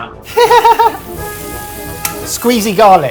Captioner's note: laughing